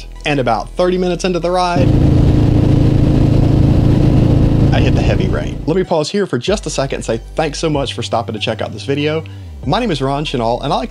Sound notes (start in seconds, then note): 1.7 engine running